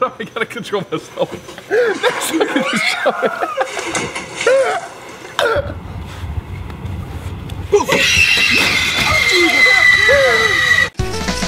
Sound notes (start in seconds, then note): 0.7 laughing; 2.6 scream; 4.6 laughing; 7.8 shriek; 9.8 laughing